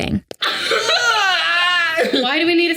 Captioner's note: Sadie laughing; Jarvis grunting